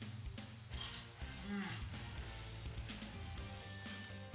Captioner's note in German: klirrend